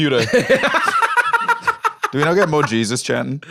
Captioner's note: laughs